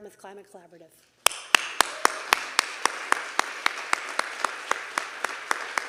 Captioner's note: everyone applauding